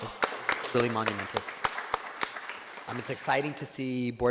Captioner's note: board members clapping